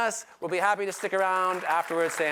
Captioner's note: applause